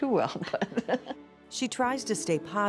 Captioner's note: laughs